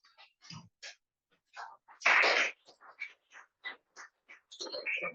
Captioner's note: applause